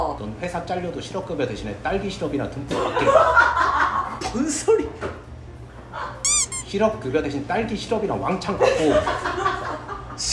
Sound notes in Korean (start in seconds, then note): 3.0 대폭소